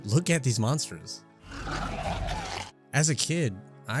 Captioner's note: guttural growling